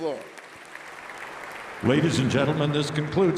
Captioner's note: applause